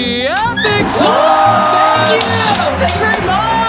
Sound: applause

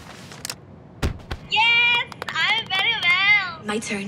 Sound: proud Clapping

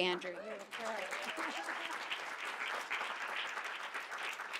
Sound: audience applauding

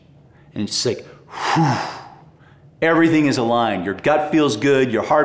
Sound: exhales

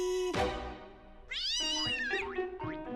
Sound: startled meowing

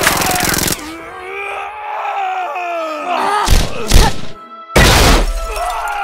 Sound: McCree & Sombra screaming

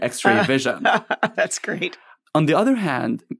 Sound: laughs

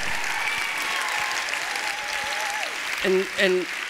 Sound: applause

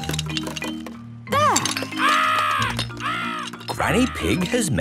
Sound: seagulls cries

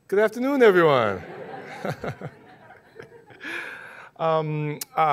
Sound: laughing

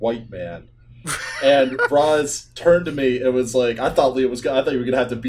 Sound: laughter

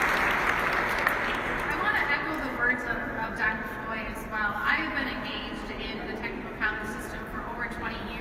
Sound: applause

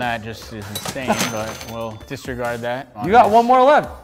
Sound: cash register bell

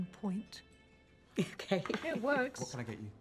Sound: laughing

